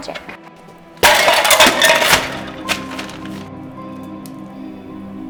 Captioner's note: cans rattling